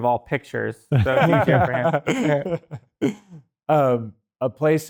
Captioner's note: everyone laughs